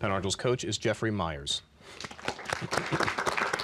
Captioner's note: applause